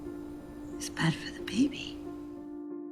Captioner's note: voiceover